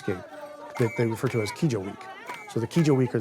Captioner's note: speaking in foreign language